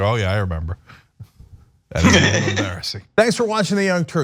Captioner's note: laugh